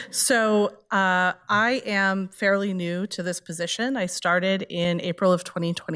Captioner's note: none